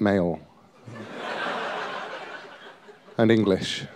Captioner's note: laughter